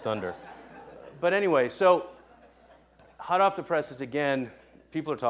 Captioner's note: laughing